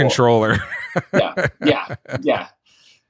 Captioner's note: laughs